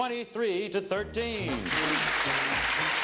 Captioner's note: audience clapping; theme music playing